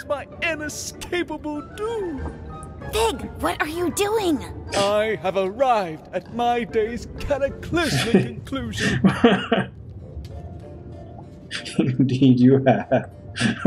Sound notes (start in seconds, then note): 3.1 stage whisper; 7.7 as Musky laughs; 13.3 continues laughing; 13.3 laughing